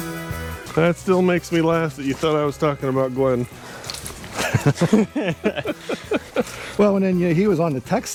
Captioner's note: laughter